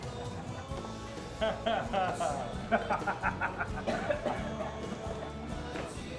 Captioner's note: laughter